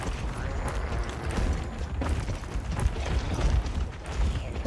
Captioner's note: monsters grunting